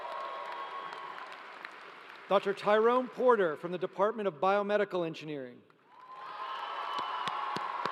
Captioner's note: applause